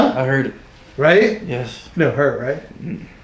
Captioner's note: laughing